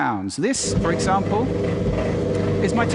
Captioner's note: sound of a clothes dryer running